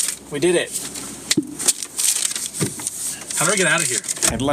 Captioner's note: paper rustling